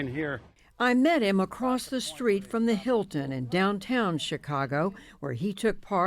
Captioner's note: voice-over